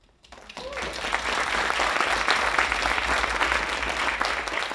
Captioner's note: audience applauding